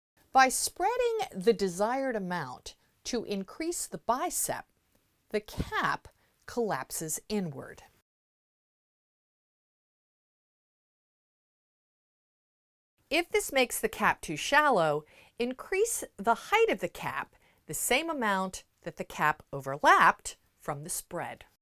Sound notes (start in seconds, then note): 8.0 no Sound Present